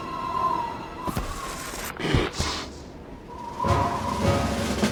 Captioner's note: wind whistles; Raptor hits ground and groans; wind whistles; dramatic music